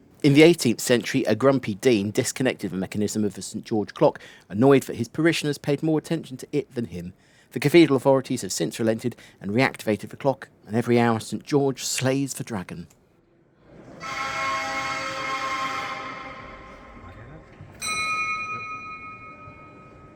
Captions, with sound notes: In the 18th Century a grumpy dean disconnected the mechanism of the St George Clock, annoyed that his parishioners paid more attention to it than him. The Cathedral authorities have since relented and reactivated the clock and every hour St George slays the dragon. [HORN BLAST SIGNIFYING THE DRAGONS DEATH] [4 BELL CHIMES SIGNIFYING THE TOP OF THE HOUR]